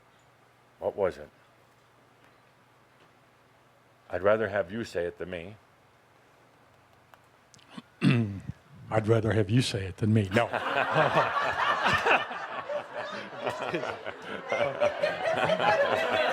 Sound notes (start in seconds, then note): 7.1 laughter; 10.4 much laughter